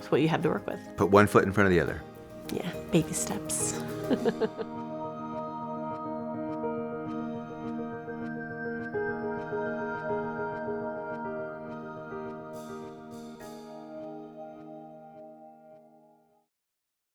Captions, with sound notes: with what you have to work with. - Put one foot in front of the other. - Yeah, baby steps. (laughs) (music fading out)